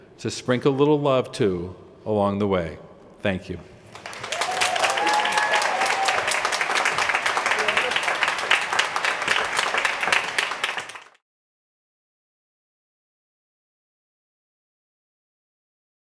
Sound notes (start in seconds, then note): 3.9 applause